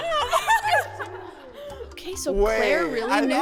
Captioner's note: laughter